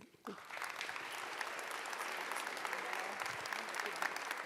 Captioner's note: audience applauds